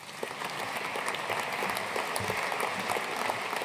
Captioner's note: audience applauding